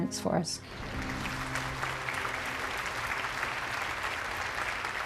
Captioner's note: applause